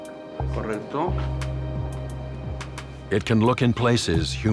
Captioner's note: man speaking in foreign language